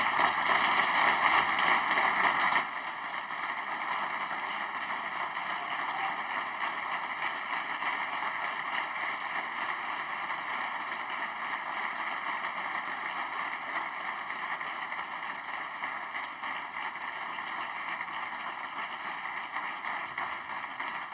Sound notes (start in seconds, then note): 3.9 applause; 20.9 applause